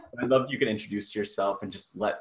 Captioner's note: laughs